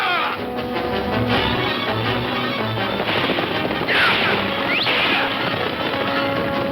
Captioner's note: Pancho shouting in Spanish; suspenseful orchestral music; guns firing